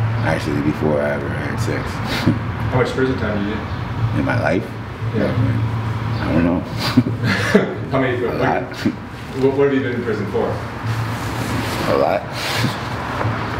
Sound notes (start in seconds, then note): 6.7 chuckling; 12.4 chuckling